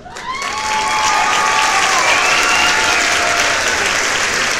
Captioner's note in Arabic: تصفيقات